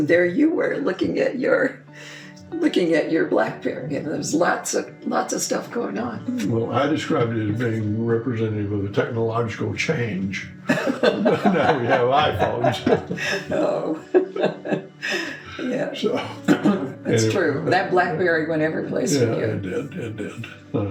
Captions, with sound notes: and there you were looking at your Blackberry, and there's lots of stuff going on. - Well, I described it as being representative of a technological change. (both laughing) Now we have iPhones. - Oh. (laughing) Yeah, it's true, that Blackberry went every place with you. - Yeah, it did, it did.